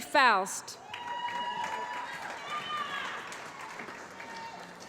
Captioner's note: applause